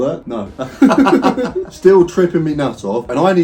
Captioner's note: both laughing